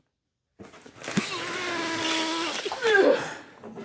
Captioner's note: groans